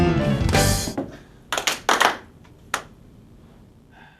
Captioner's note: clapping